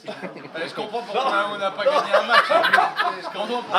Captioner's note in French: Rires